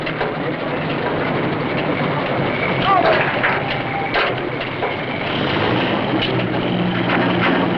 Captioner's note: engines Running